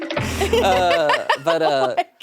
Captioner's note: drums thudding; laughs